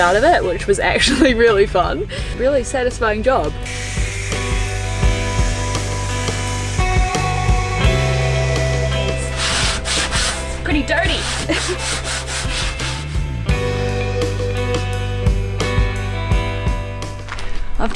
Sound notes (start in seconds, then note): 10.7 laughs